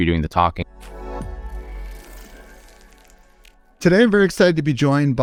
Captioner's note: logo whooshing